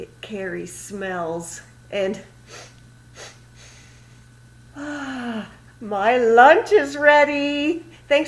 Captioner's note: sniffs again. She takes a big sniff and exhales